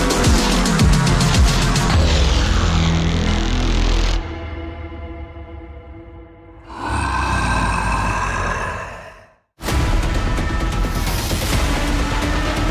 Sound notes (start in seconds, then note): 6.6 Devil growls; 9.6 intense music